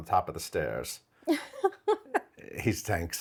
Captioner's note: laughing